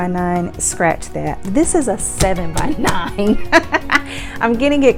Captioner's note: laughs